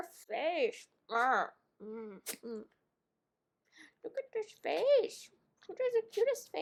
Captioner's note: dog noises